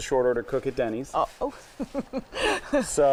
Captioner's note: laughing